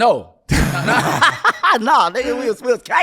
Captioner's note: laughing